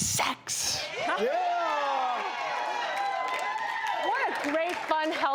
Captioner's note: audience applauding